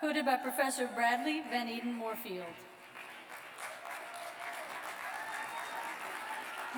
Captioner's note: applause